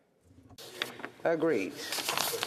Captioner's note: speaking French